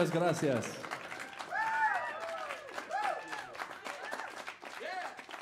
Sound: audience cheers "Whoo!"

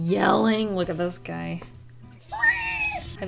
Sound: Screech

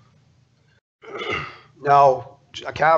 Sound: clears throat

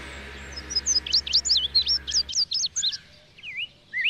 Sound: birds chirping

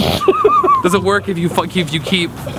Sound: laughing loudly

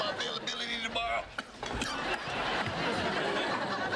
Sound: coughs

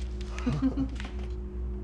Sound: both laugh

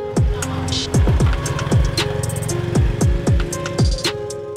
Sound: scooters roaring; slow alternative music

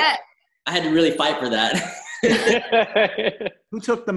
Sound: laughing

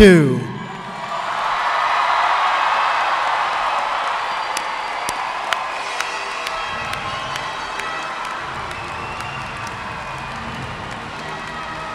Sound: cheers and applause

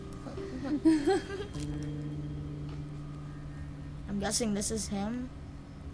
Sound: Sabrina laughs

